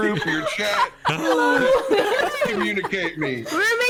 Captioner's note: laughter and hellos continue